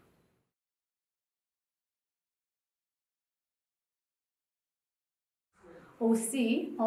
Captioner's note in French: silence